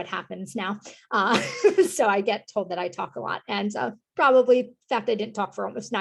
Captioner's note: laughter